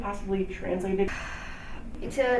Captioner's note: sighs